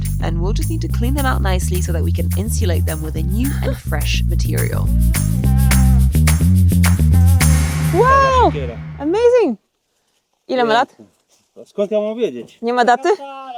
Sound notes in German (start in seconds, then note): 5.1 Fröhliche Musik; 10.5 spricht in einer Fremdsprache